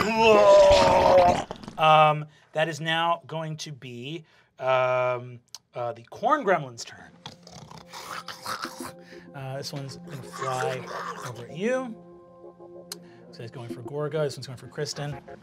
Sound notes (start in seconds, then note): 0.0 monstrous groaning; 7.2 snarling